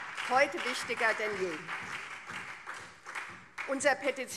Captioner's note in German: Beifall SPD und CDU